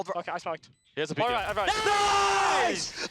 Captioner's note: cheering; laughs